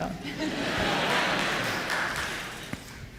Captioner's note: laughter